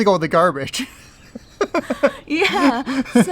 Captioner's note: laughs